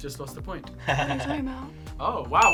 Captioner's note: laughing; bell dings